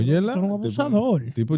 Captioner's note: speaking In Foreign Language